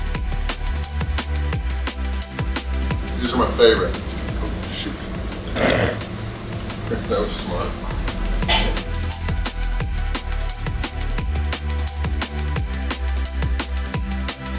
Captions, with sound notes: These are my favorite. Oh shoot. (camera woman snorts) (laughs) That was smart. (intense music)